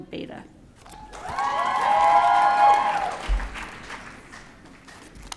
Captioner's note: audience cheering